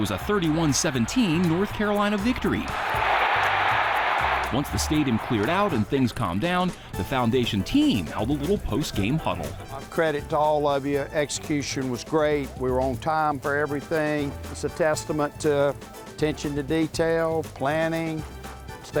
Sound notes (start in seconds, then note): 3.3 crowd cheers